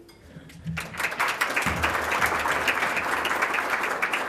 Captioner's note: audience applauds